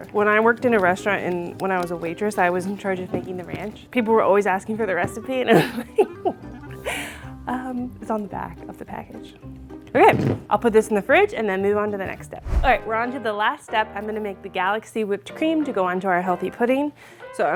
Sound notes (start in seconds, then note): 5.5 laughs